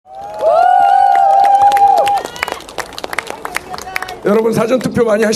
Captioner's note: citizens are cheering